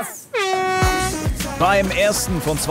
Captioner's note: Startsignal